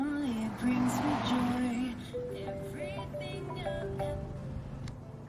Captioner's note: phone ringing